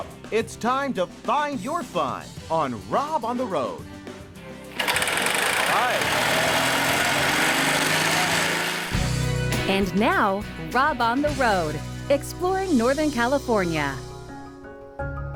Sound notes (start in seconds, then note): 4.6 sound of motor starting